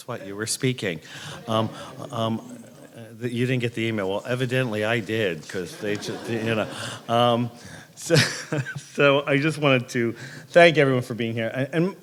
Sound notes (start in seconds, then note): 1.3 crowd quietly laughs; 7.9 laughing